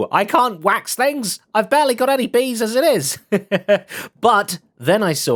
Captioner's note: laughs